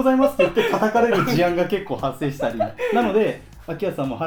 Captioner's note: laughs